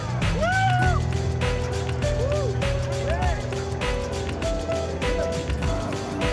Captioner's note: people cheering; upbeat music